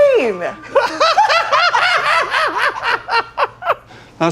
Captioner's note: laughing